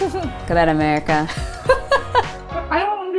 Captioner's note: laughing